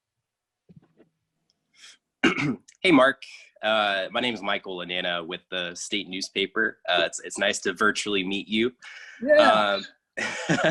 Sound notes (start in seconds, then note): 2.2 clears throat; 8.8 laughs